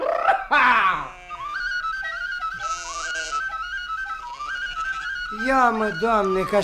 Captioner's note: the sheep bleat